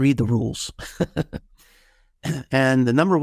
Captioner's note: laughing